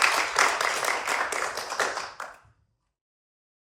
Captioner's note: applause